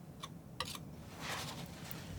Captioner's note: scratching